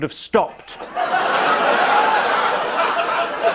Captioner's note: laughter; laughter continues